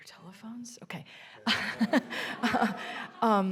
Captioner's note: laughing